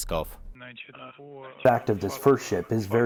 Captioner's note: through translator